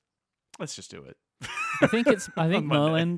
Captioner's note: laughing